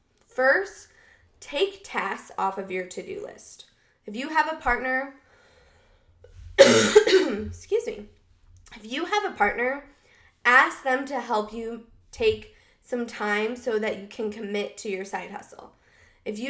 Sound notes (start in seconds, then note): 6.6 coughs